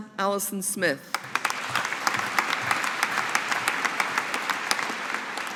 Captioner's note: audience applauding